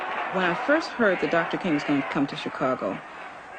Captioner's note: female voice